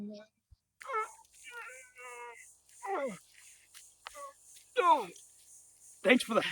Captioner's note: groaning